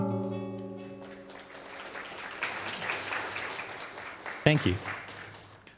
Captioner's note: applause